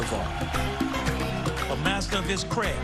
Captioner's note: cheering and applause